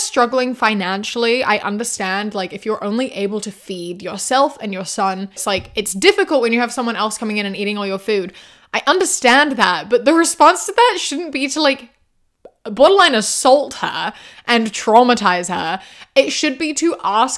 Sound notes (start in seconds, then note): none